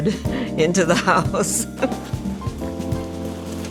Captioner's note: laughs